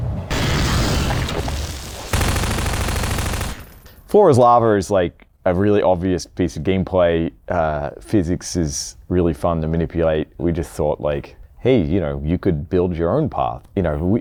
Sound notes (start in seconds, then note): 0.2 monster growls; 1.6 loud automatic gunfire